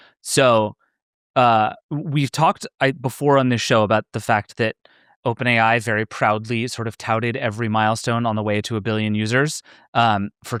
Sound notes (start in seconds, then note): none